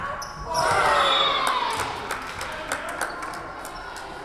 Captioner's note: whistle blowing